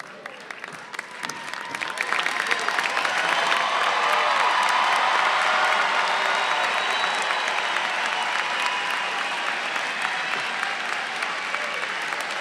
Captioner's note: applause